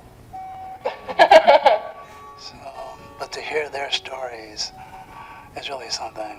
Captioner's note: laughter